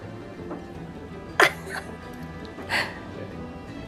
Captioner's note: chuckling